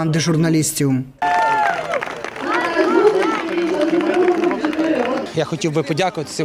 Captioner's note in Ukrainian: вигуки вболівальників та аплодисменти